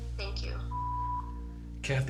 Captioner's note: voicemail beeps